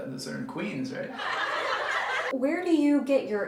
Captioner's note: audience laughter